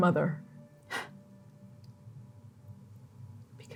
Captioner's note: scoffing